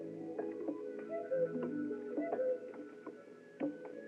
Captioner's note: cuckoo Calls